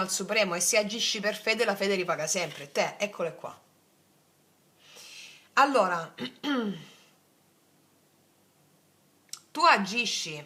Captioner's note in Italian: schiarire la voce